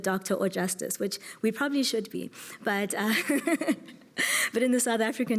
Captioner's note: laughs